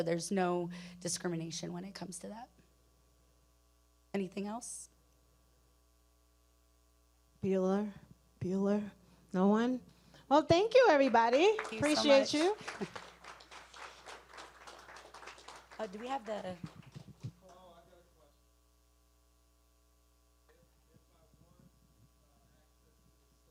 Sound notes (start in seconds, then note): 11.4 audience applauding